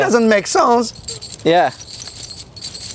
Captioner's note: jingling